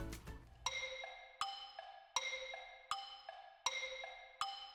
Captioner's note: clock ticking